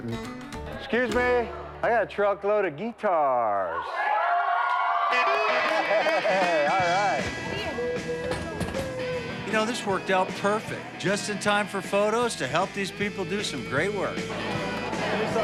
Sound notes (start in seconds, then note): 3.6 cheering